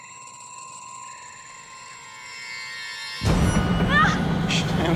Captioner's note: Timmy screams